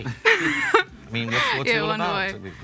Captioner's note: laughs